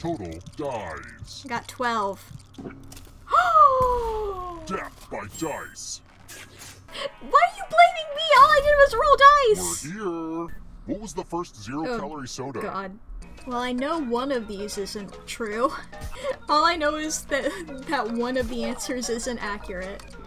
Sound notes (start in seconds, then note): 3.2 gasps; 16.1 through laughter